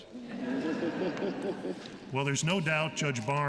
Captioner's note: laughter